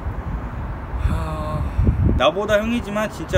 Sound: sigh

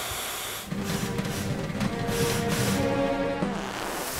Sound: rattling

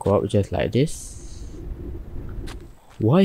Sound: underwater sound goes brrrr

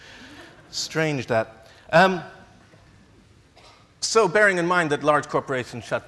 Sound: laughs

